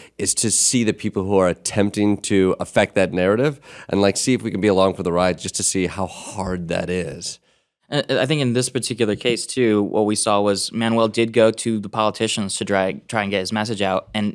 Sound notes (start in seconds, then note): none